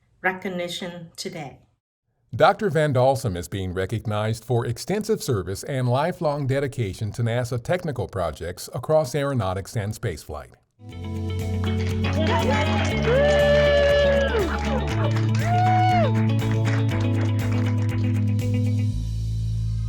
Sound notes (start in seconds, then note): 11.5 cheers and applause